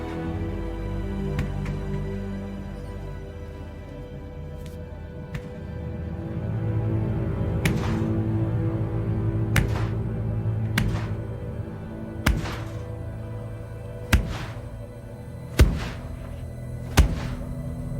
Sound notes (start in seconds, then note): 0.2 dramatic orchestral music continues; 7.6 fist thudding